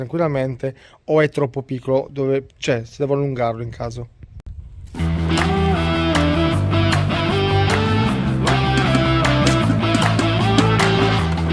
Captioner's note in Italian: Applauso